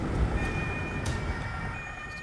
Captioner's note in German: Sirene